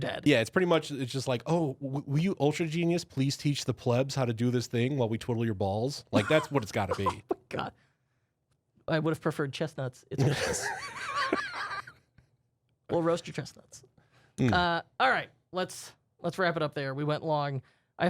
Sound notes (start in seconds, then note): 6.2 softly laughs; 10.2 laughing drowns out speaker